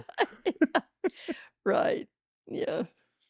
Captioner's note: laughing